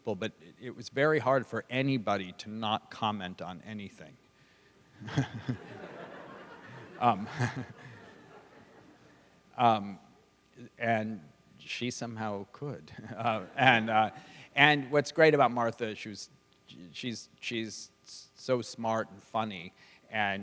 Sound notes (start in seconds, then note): 5.0 laughter; 7.0 laughs